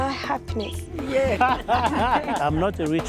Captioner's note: laughter